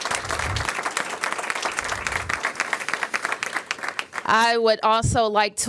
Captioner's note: applause